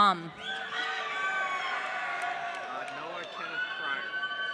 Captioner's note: audience cheering